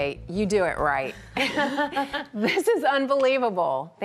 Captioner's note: laughing